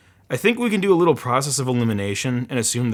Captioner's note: none